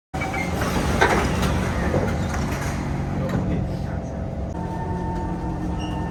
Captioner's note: door asmr